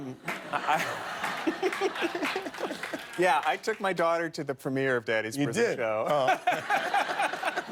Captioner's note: laughter